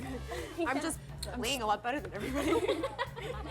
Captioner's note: laughs; laughs